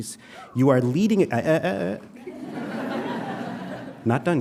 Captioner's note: audience cheering lightly; audience laughing